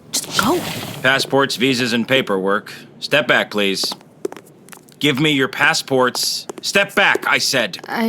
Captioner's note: sound of footsteps retreating; sound of stepping forward